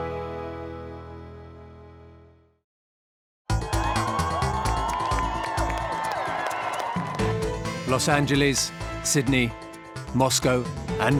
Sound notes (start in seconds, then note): 3.5 cheering